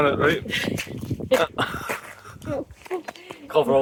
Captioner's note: laughter